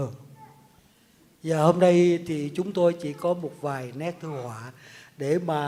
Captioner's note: speaks in Vietnamese